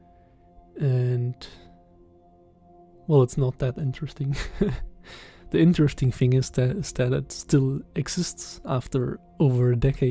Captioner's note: laughs